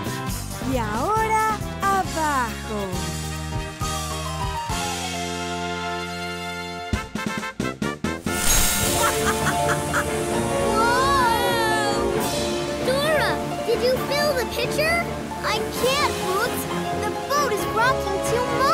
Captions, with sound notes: Y ahora, abajo. [animal band playing] [evil laughter] Whoa! Dora, did you fill the pitcher? I can't, Boots. The boat is rocking too much.